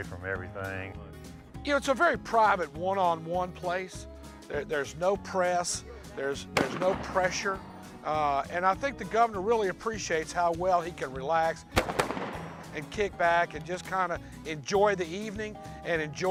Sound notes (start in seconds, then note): 6.5 gun shots